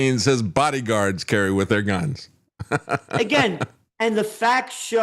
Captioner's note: laughing